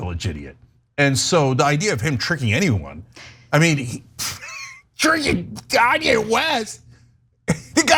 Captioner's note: laugh